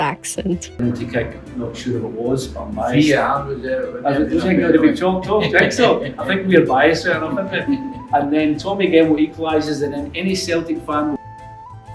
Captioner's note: speaking Scottish